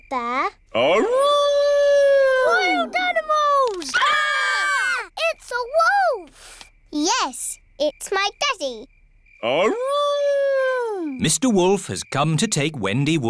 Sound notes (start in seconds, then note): 1.0 howling; 3.6 all screaming; 8.7 howling